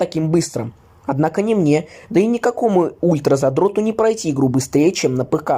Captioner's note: russian Language